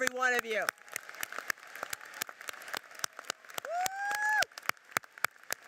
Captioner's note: audience cheers and applauds